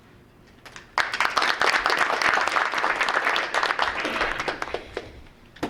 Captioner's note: group applauding